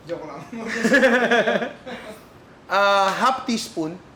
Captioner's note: laughter